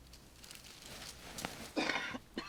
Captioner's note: man coughing